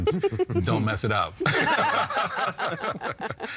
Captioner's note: all laughing